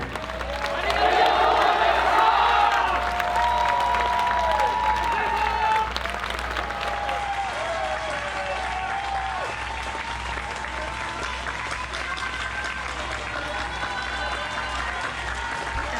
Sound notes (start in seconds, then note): 0.1 performers yelling; 1.1 applause and cheers